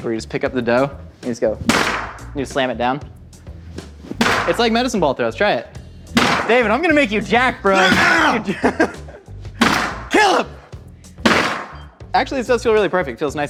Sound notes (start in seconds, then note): 1.6 dough splatting; 6.8 laughing; 8.1 grunting